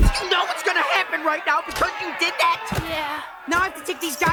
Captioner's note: people shouting